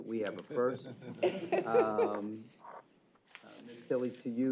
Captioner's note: chuckle